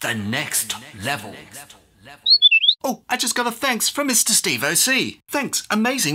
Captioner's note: whistle blows